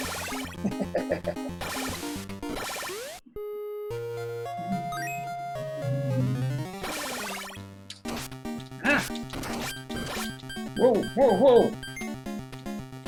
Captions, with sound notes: [chuckles] [humming along] Ngah! [low HP beeping] Whoa, whoa, whoa!